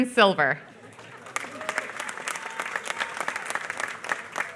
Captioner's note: applause